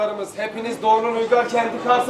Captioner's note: Turkish